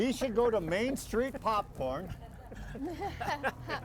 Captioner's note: everyone chuckling